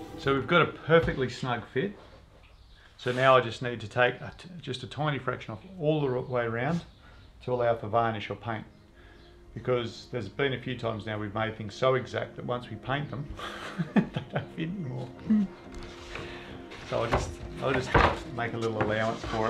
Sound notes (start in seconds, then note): 13.3 chuckles